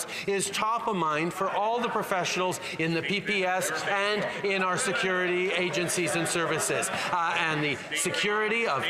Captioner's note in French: voix de l'interprète